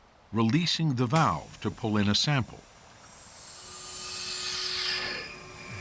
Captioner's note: sucking sound